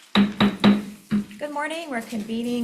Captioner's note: gavel banging